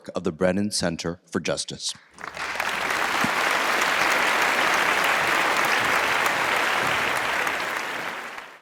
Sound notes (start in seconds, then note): 2.1 attendees applauding